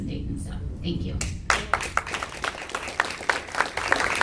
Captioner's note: audience claps